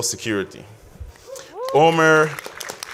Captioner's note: audience applauds